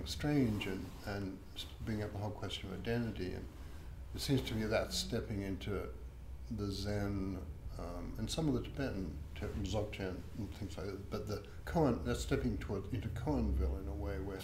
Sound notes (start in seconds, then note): 9.2 speaking in foreign language